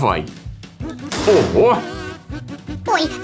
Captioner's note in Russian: бах!